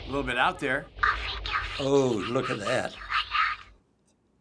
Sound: whispering

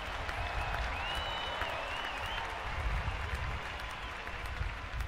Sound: audience applauding

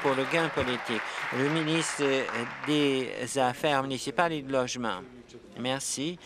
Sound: applause

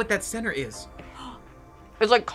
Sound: gasps

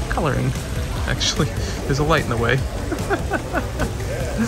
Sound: laughs

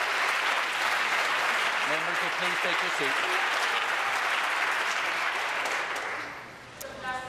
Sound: applause

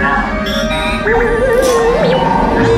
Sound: scared droid noises

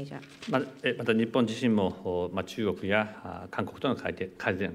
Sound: speaking japanese

